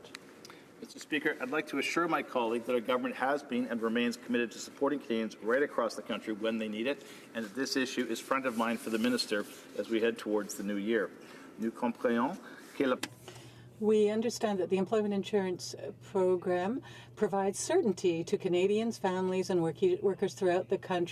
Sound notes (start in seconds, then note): 18.1 speaking French